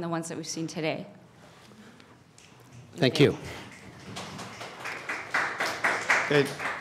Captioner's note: applause